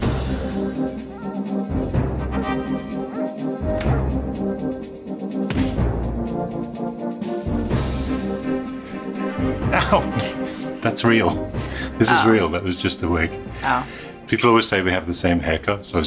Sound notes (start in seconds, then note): 0.3 suspenseful music; 3.4 dog barks